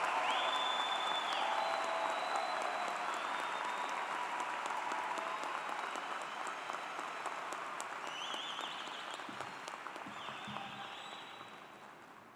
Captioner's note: cheers and Applause